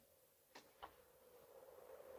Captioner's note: door opens; wind howls